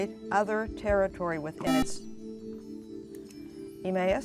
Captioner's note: buzzer